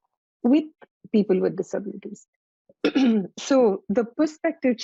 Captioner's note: clears throat